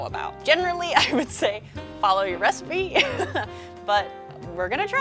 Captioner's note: chuckles